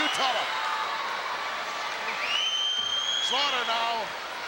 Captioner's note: crowd yelling